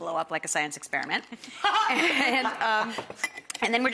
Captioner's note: Rachael laughs